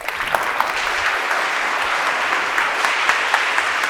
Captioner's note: audience applauding